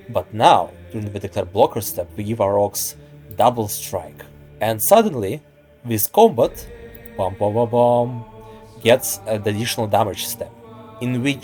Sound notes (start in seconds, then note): 6.4 buhbuhbuh bam!